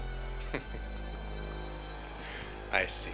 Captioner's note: Travis chuckling